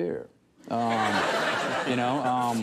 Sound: studio audience laughs

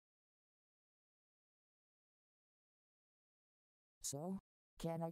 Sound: awkward silence

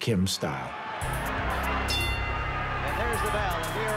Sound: dramatic music; bell rings

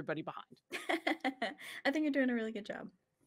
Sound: laughs

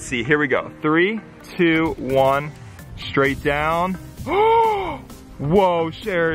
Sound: gasping

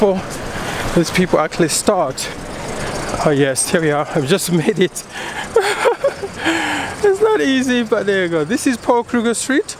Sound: giggling!

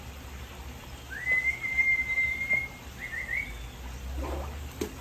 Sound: guide whistling; object hitting water

